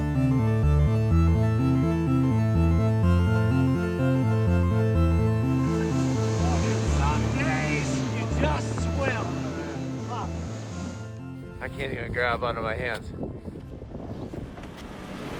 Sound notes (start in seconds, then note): 9.8 people chattering; 15.1 engine rumbling